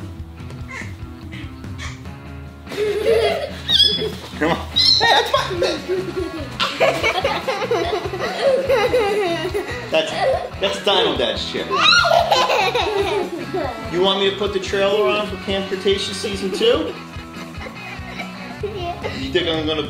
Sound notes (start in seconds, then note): 3.1 children laugh; 12.7 kids laugh; 18.4 laughing